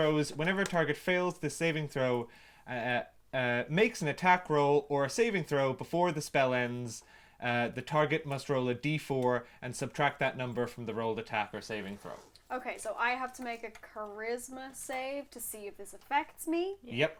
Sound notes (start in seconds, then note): none